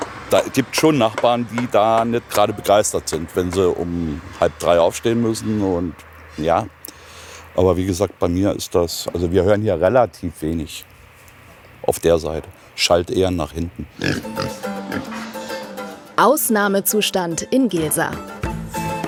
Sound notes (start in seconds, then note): 14.8 grunt